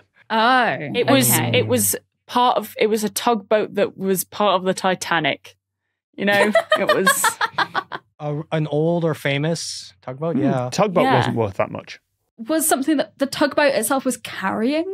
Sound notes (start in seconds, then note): 7.6 laughs